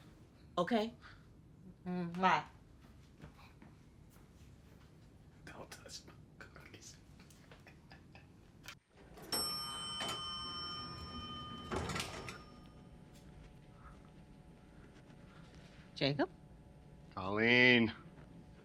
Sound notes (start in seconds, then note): 7.2 laughs; 9.0 elevator dings